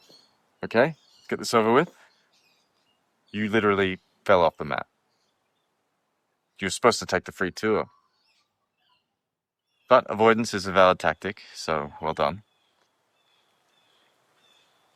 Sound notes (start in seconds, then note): none